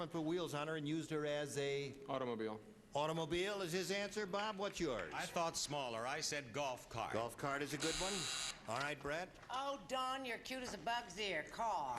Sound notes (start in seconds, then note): 7.8 buzzer sounds